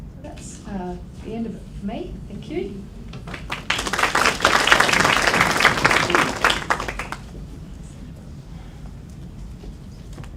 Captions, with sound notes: That's the end of me, thank you. (applause)